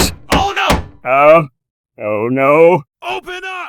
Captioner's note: Plankton Voice; Plankton Voice